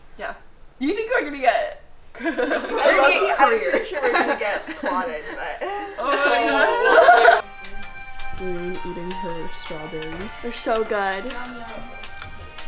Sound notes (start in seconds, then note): 2.1 laughter; 7.1 laughter